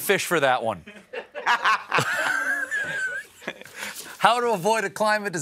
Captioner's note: laughter